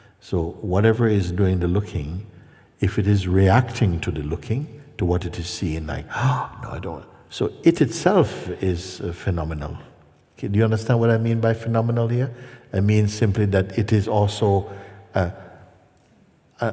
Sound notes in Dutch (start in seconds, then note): none